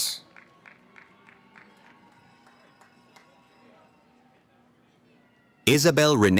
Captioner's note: cheering